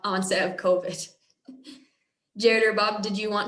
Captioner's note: laughter